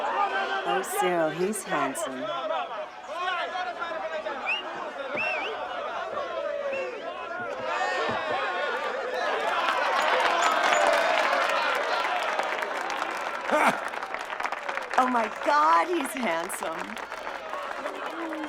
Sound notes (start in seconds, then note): 4.2 whistling in crowd; 9.4 laughter and applause